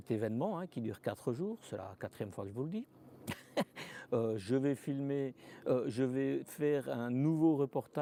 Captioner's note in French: rires